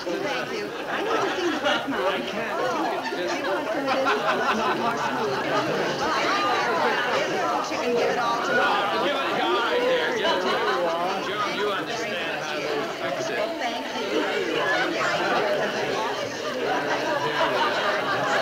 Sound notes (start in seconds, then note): 3.9 audience laughing; 3.9 people chattering; 13.7 audience laughing; 14.5 people chattering